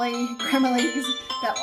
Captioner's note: phone rings